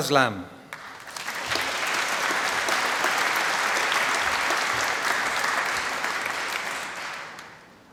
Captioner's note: applause